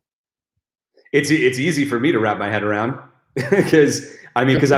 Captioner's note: chuckles